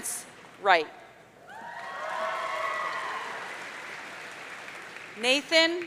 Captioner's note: audience cheering